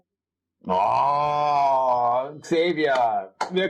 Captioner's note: german orgasm sounds